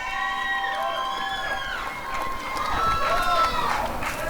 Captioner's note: applause and cheering